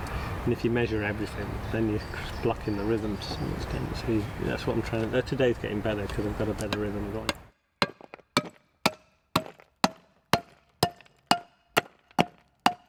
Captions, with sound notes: And if you measure everything, then you're blocking the rhythm. Today's getting better cos I've got a better rhythm going. (STEADY HAMMERING)